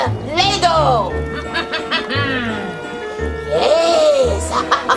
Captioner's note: laughs evilly